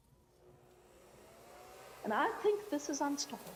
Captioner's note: fan whirring